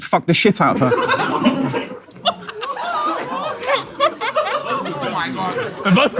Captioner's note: people in room laughing